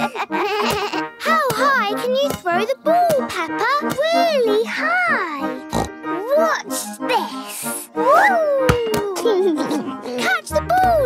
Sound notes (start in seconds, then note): 5.6 snorts; 8.8 giggles